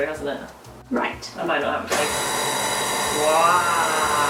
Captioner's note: mixer noise